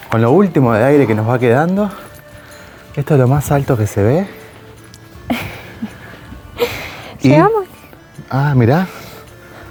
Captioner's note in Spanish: risas